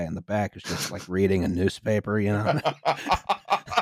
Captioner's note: laughter